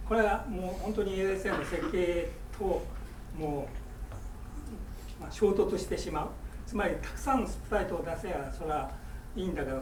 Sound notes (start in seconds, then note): 0.2 speaking in foreign language; 1.4 coughing